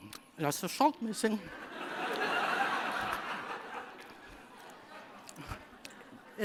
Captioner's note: laughter